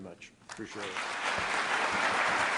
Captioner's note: applause